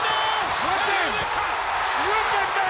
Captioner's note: audience cheering